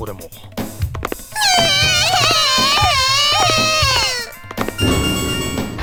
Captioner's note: tears